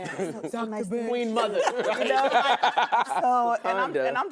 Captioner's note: laughter